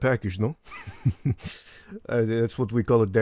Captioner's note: chuckles